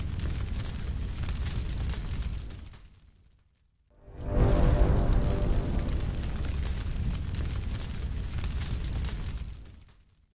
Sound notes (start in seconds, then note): 4.0 whooshing; 4.0 crackling